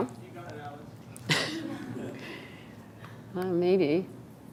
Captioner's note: laughing